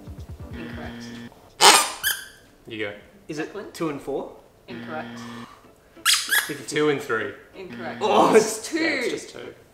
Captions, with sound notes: - Incorrect. (squeaks) - You go. - Is it two and four? - Incorrect. (squeaks) - Two and three? - Incorrect. It's two. - Yeah. It's just two.